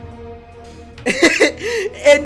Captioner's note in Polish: śmiech